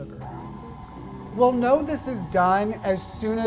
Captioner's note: mixer whirring